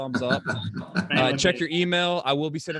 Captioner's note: chuckling